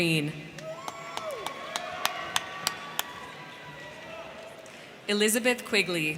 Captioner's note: crowd clapping; crowd cheering